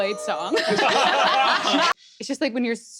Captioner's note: laughter